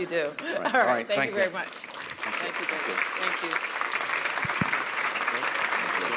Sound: laughter

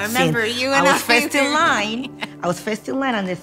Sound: laughs

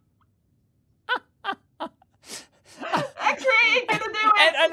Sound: laughing

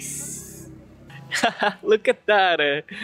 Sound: laugh

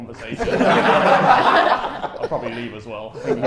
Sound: Sidemen laugh

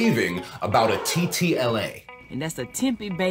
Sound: people gasping

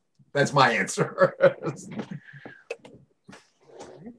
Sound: laughs

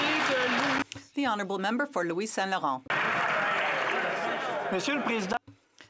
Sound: some Applause

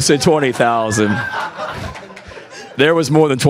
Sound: people laughing

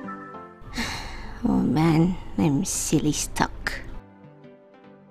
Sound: sighs

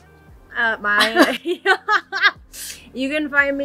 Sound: laugh

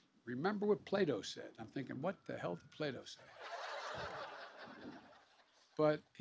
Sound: laughter

